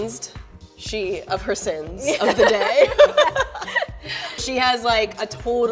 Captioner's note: laughing